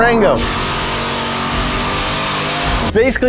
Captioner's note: engine revving